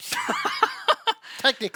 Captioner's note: laughing